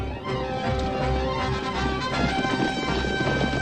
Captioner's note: horses galloping